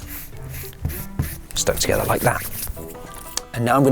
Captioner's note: hands rub